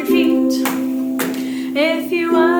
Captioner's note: stomp, Stomp